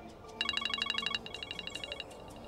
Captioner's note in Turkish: Telefon çalıyor